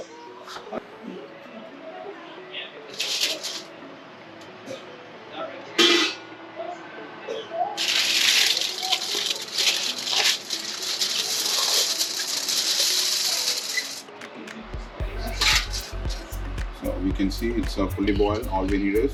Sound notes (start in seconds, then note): 0.6 lid opening noise.. silver foil crumbling.. music